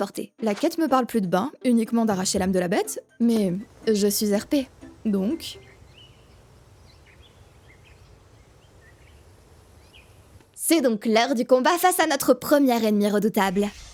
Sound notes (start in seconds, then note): 5.7 birds chirping